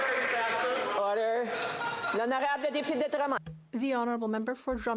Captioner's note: some Applause